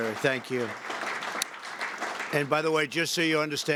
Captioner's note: applause